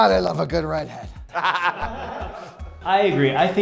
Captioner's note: laughs